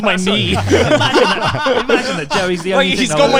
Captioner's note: laughs loudly